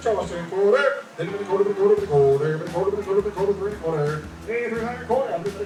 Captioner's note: auctioneer mumbling out prices